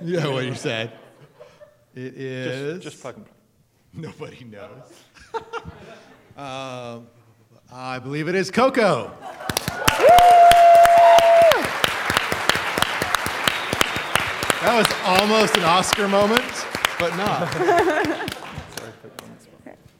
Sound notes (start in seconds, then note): 5.0 laughter; 9.3 applause; 17.4 laughter